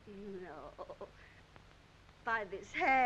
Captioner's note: none